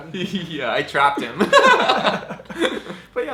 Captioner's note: laughs